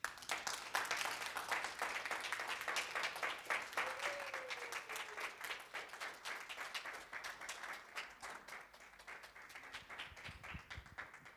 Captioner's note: applause